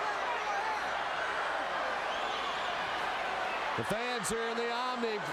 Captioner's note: crowd chattering